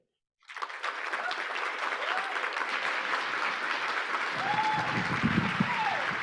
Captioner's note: audience applauding; audience cheering